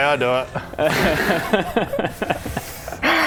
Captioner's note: naughty laughter